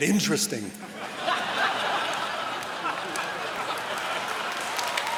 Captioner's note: laughter